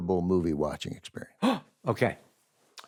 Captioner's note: gasps